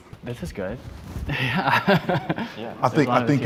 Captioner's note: chuckles